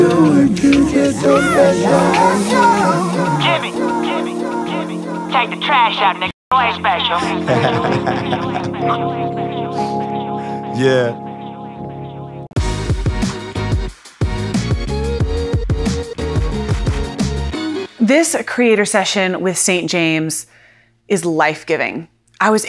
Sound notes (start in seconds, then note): 7.2 laughs; 12.7 upbeat music